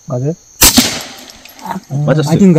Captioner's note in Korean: 총소리